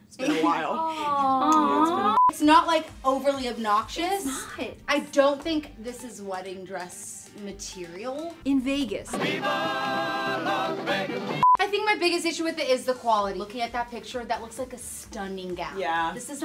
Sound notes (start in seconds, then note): 2.1 beep